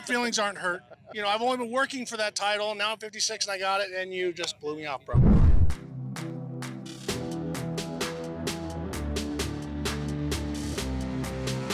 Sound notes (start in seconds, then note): 5.1 whoosh